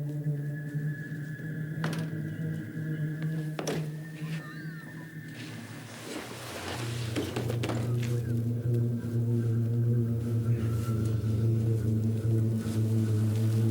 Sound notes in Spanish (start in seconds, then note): 7.4 Corpo batendo